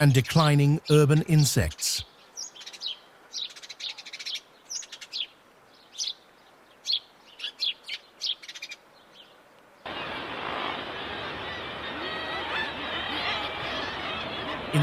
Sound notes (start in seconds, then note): 5.6 birds chirping